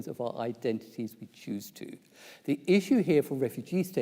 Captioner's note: none